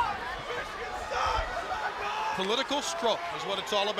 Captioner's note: crowd cheering